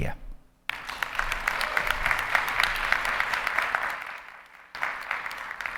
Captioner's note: audience applauding